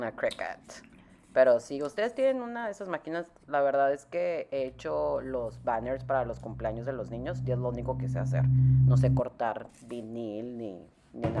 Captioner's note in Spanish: rambles in Spanish